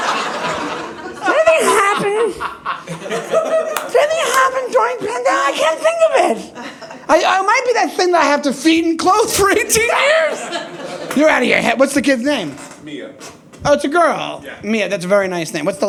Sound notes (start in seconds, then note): 1.3 audience laughing